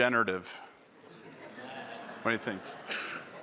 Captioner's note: laughter